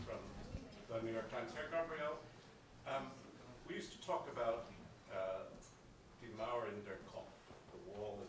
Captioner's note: non-english speech